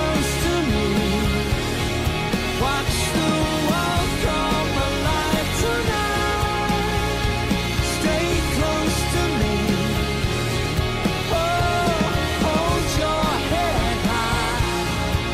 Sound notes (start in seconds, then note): none